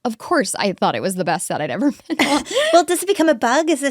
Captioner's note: chuckles